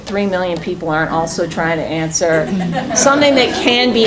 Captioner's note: laughing